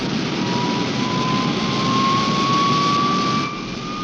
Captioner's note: plane whirring